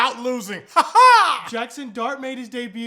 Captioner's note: weird laughing again